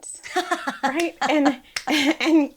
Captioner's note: laughs